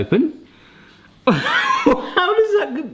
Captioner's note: laughs